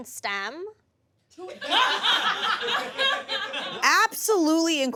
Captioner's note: audience laughs